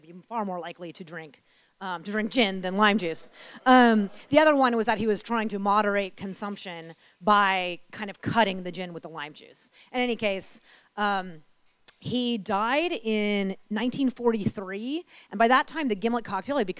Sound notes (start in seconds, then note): 3.3 audience laughing